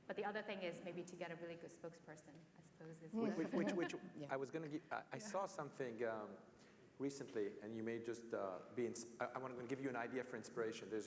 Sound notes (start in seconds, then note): 3.2 laugh